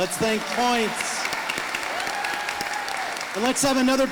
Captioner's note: audience applauding